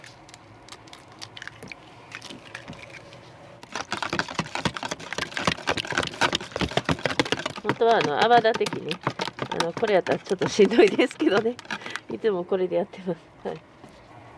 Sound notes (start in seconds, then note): 10.4 laughs